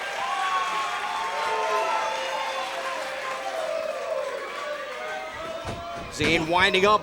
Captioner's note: cheers & applause